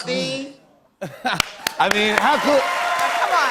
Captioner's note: cheers and applause